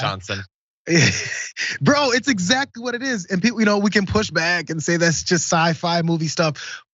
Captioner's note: laugh